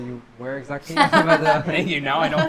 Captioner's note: laughs